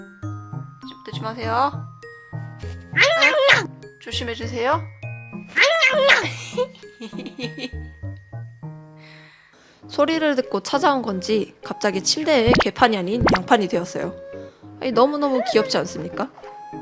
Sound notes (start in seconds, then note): 5.6 laughs